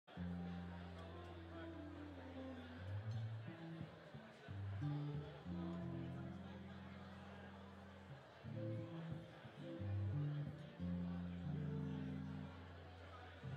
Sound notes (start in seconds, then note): 0.4 deep string music; 5.6 crowd converses